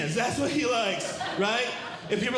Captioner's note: audience Laughing